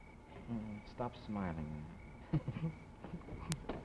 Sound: laughter

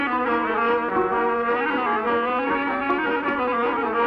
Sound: clap

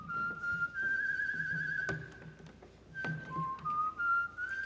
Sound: singer whistles

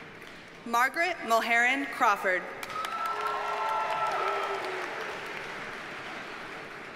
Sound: audience cheers and applauds

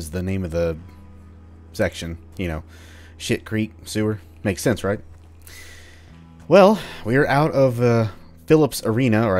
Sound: none

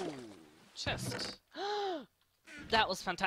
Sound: gasp

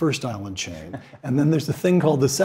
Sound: laugh

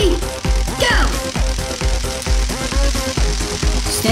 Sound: crackling electricity

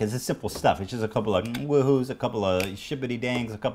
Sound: click

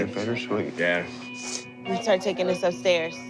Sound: sniffles

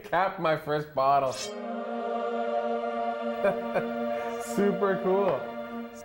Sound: laughs

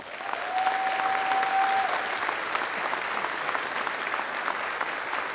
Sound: applause

